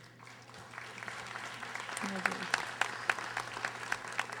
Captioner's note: audience applauding